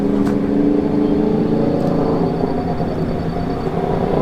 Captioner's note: fast motorbike passing